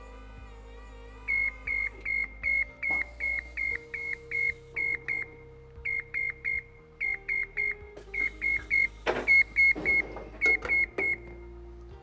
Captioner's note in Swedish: beep-ljud